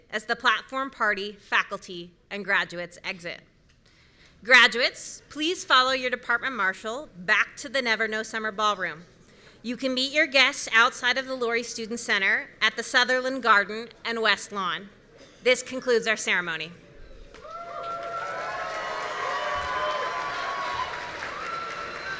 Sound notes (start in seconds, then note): 17.4 audience cheering